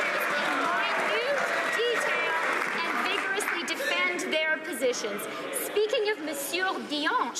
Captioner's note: some Applause